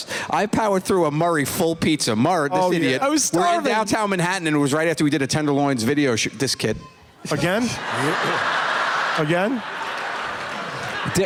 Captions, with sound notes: I powered through a Murray full pizza. Murr, this idiot. I was starving! We were in downtown Manhattan, and it right after we did a Tenderloins video -- this kid. [ Child crying ] Again? Again?